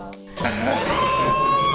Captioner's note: woman screaming